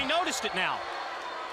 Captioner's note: crowd cheering